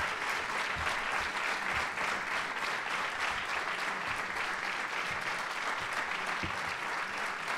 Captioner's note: applause